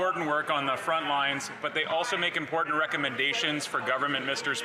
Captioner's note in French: voix de l'interprète